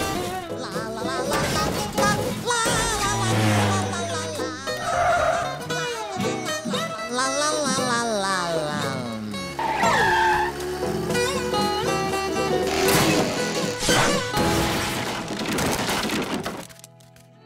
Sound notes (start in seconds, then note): 0.1 sings to himself; 15.2 engine rattles